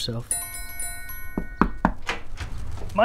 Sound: tink Bells; knock on door

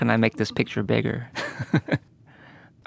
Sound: chuckles

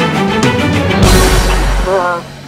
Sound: gunshot

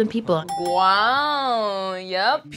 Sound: bell dings

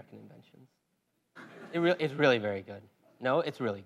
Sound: laugh

